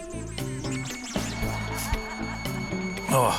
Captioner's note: laughter